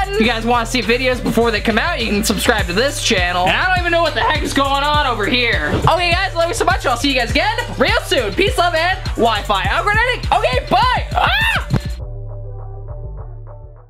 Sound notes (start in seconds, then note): 11.1 screams; 11.9 upbeat music fades